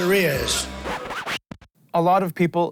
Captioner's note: record scratch